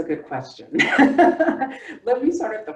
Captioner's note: laughing